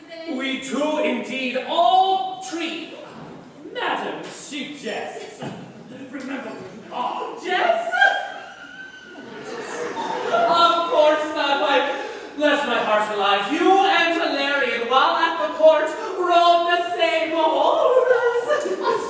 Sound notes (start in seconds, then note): 8.0 laughter